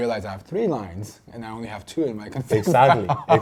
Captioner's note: laughs